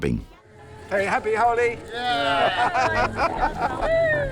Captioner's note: cheering